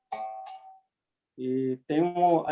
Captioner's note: wire pinging